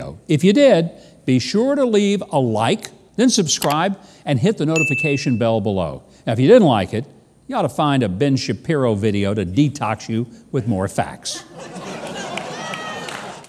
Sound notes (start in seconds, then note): 11.4 audience laughing; 12.2 audience clapping